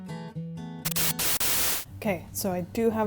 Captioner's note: static